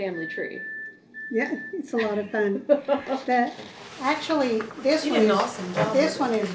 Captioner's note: laughter